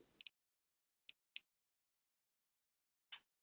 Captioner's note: mouse clicking